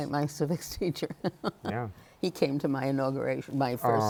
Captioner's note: laughs